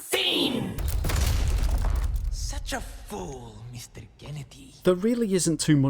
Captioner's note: in Game Audio